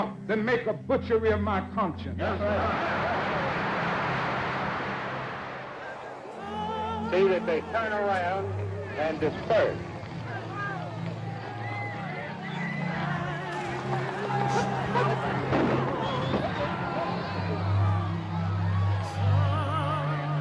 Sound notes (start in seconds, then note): 2.8 crowd applauding; 10.7 crowd clamoring; 10.7 pensive music